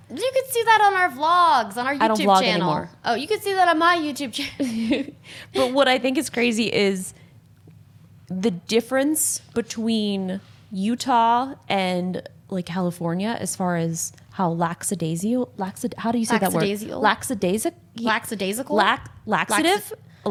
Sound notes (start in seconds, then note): 5.4 laughs